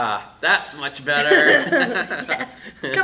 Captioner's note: laughter